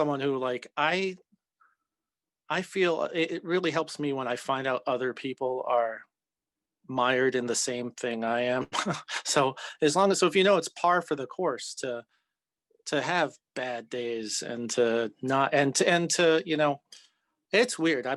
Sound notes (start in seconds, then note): 8.7 chuckles